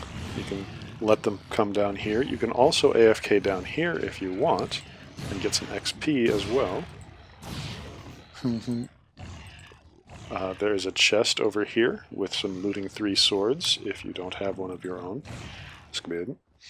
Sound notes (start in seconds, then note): 8.1 hn hnn